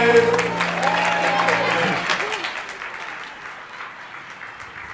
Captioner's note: crowd applauding